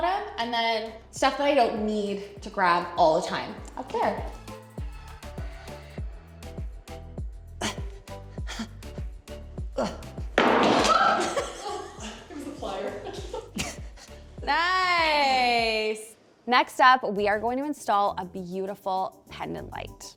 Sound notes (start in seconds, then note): 4.4 upbeat music continues; 7.6 grunting; 10.0 pliers dropping; 10.8 screaming